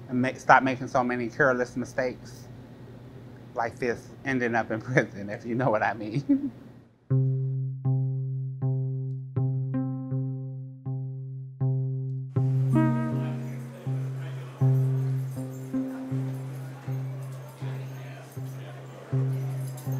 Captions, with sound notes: and stop making so many careless mistakes like this. Ending up in prison if you know what I mean (laughs). (pensive music)